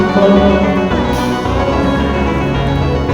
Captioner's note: sobbing